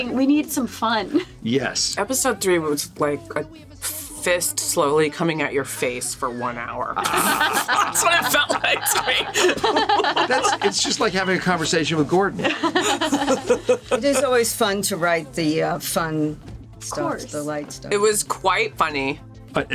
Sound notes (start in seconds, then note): 7.0 all laughing; 12.3 laugh